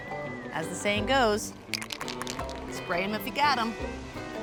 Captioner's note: cans rattle